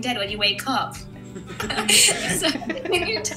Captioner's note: laughing